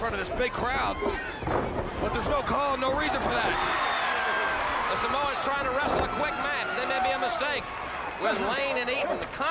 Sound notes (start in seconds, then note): 4.0 crowd cheering